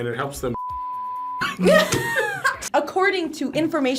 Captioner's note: group laughs